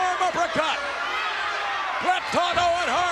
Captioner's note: spectators cheering